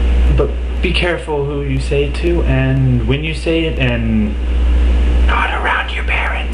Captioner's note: whispers